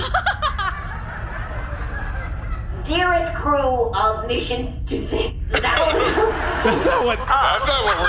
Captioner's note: laughing